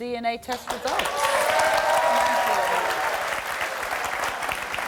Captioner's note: audience cheering